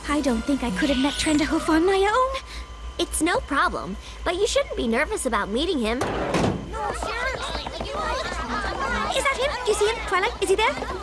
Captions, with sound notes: I don't think I could have met Trenderhoof on my own. It's no problem, but you shouldn't be nervous about meeting him. (clamouring) Is that him? Do you see him? Twilight, is he there?